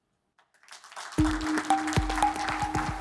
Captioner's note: audience applauding; gentle upbeat music